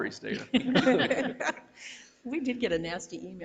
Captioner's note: board members laugh